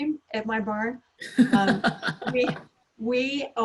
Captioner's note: laughs